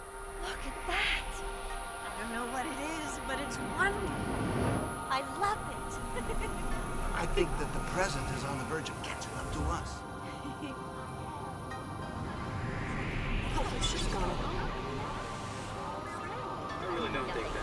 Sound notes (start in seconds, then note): 5.7 laughing; 13.1 distorted Chattering